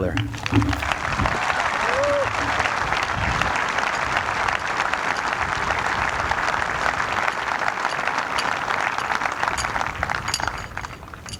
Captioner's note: applause